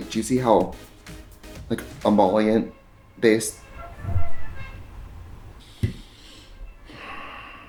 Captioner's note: horn sound